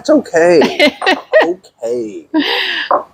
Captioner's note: laughs